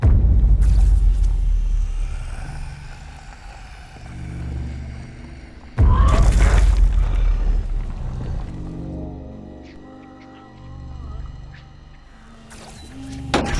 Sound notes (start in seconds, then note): 0.9 zapping; 2.3 growling; 5.8 crashing; 6.1 yelling; 12.4 zapping